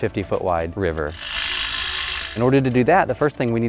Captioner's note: motor whirring